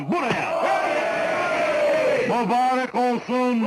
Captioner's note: crowd cheering